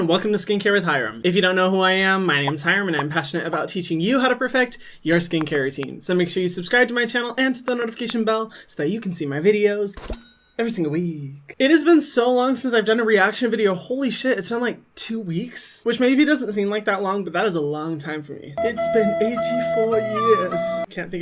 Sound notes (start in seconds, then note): 2.8 popping; 10.2 belling ringing; 18.6 flute music